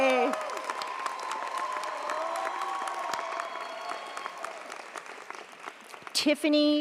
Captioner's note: audience cheers; audience applauds